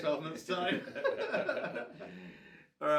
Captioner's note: both men laugh